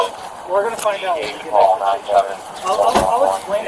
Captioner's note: radio chatter